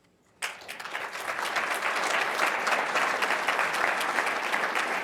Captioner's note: audience applauding